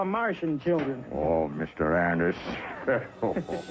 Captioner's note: chuckling